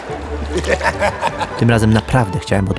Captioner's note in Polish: śmiech